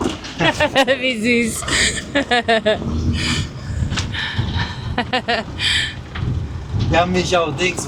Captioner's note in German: gelächter